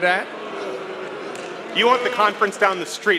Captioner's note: booing